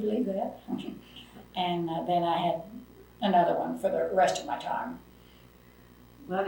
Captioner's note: laughs